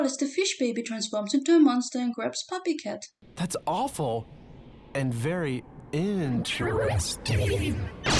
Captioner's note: Wallaces voice but creepy